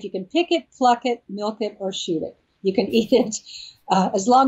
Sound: laughs

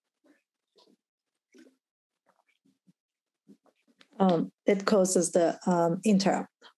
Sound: pause

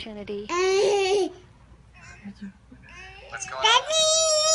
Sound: baby laughs

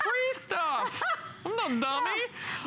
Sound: laughter

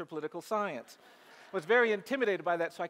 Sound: audience laughs

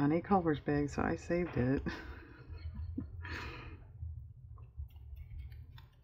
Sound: laughs

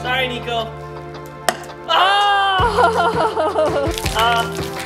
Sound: groaning

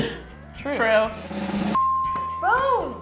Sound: drum roll; ding

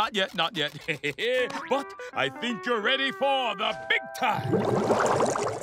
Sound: chuckles

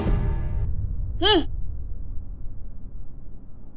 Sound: scoffs

